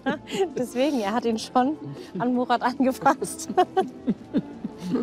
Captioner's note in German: lacht; lacht auch